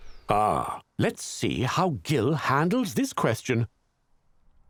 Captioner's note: voiceover